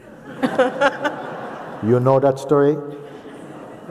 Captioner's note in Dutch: gelach